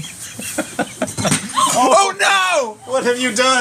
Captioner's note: laughing; glass falls